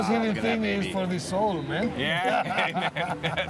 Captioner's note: laughter